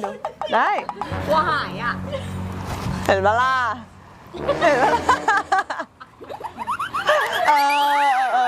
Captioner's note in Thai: เสียงหัวเราะ